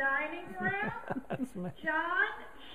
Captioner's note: laughter